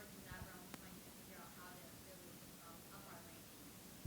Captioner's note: faintly speaking